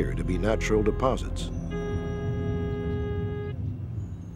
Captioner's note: metal detector beeping